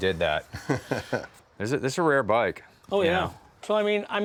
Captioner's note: laughs